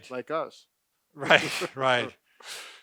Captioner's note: laughs